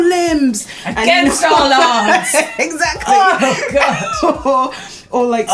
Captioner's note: laughs